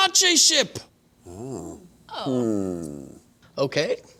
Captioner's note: thoughtful humming